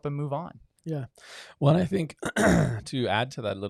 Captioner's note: clears throat